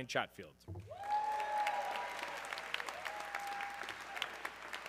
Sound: audience cheering

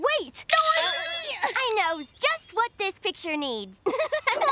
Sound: laughing

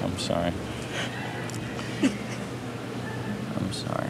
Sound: sobbing

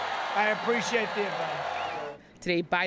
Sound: cheering and applause

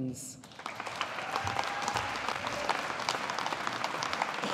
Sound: audience applauding

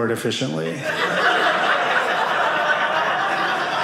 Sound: audience laughing

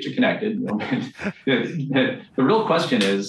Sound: both laughing

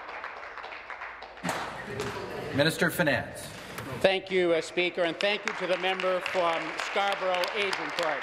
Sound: applause

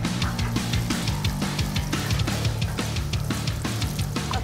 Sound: water dripping

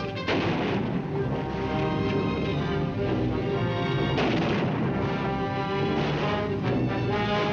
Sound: dramatic music; artillery firing

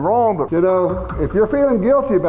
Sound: voiceover

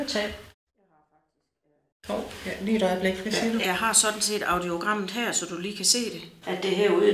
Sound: in Danish

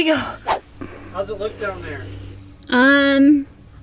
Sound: whooshing

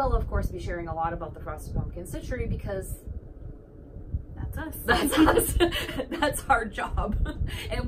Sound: laughs

